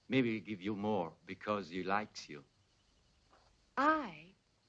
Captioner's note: none